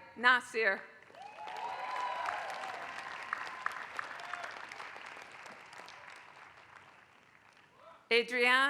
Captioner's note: applause